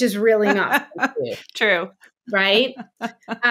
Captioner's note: laughs